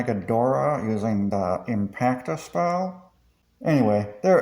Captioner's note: reddit mod voice